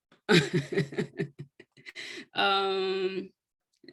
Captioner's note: chuckles